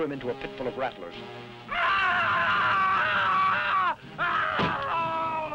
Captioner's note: Krupp screaming